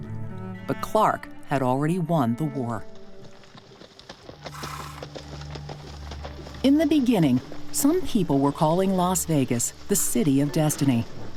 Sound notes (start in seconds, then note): 2.9 horses clopping